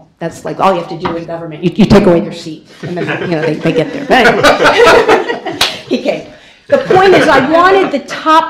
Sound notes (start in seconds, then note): 5.0 laughter